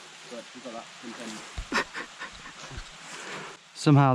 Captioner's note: fake sobbing